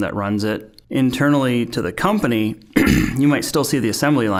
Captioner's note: clearing throat